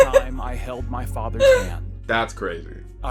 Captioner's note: laughs